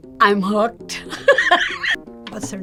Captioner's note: laughs